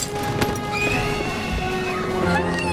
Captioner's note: distant screams